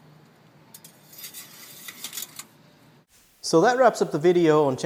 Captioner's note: metal scraping metal